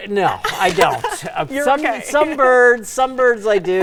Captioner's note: laughs lightly